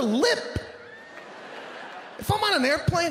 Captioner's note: audience laughing